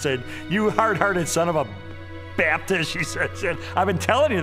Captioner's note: laughing